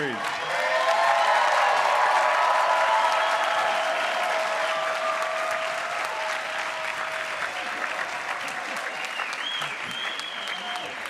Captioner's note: cheers, applause